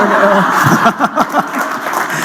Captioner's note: laughter